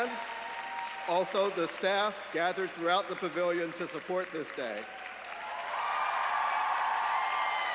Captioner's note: applause